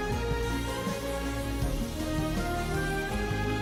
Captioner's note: fire whooshing